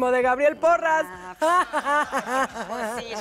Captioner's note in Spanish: Ríe